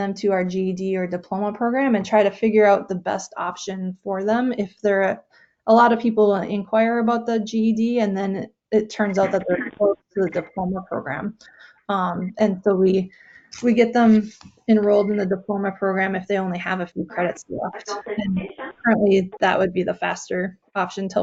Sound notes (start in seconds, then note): 8.9 crackling drown sown speaker